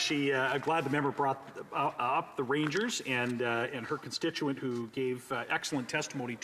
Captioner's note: speaking indigenous language